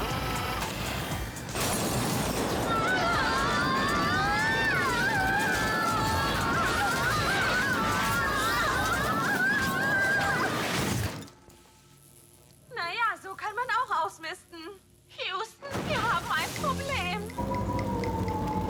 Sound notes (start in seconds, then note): 1.4 explosion; 2.4 screaming